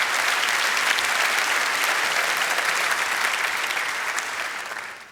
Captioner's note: applause